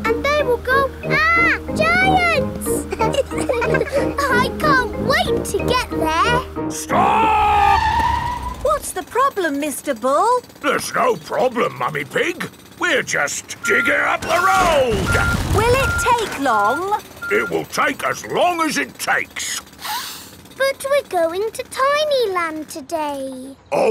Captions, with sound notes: And they will go, "Arrgh! Giants!" (ALL LAUGHING) I can't wait to get there! -Stop! -(TIRES SCREECHING) What's the problem, Mr. Bull? There's no problem, Mummy Pig. We're just digging up the road! Will it take long? It will take as long as it takes! (SNIFFS) But we're going to Tiny Land today.